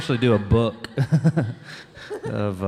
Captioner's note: chuckling